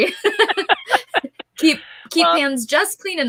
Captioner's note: laughing